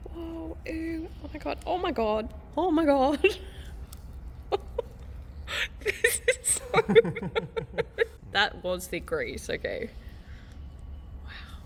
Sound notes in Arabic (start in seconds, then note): 5.4 ضحك